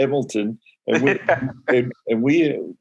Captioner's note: laughing